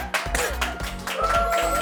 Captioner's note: chokes